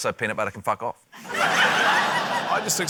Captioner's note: laughter